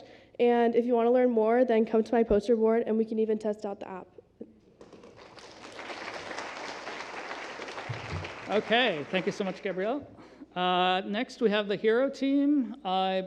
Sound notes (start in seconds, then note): 4.8 applause